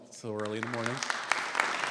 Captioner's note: audience applauding